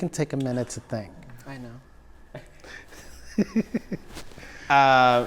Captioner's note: laughs